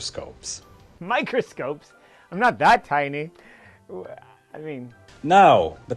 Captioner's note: scoffs